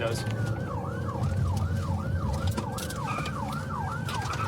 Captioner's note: siren wailing